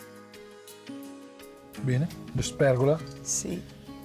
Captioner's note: conversing in Italian